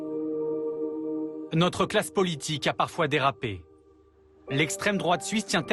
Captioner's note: french